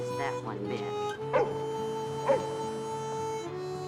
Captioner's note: angus barking